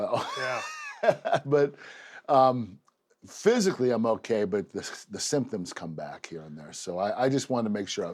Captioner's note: laugh